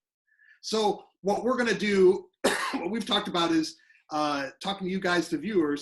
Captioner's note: coughing